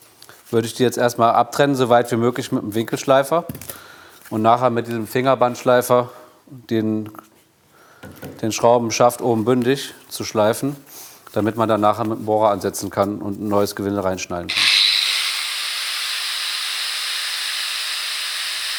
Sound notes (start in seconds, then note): 14.5 hissing of the grinder